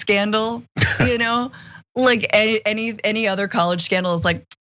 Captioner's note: laugh